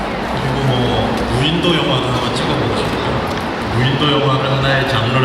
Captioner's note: speaking Korean